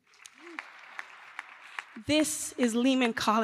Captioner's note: applause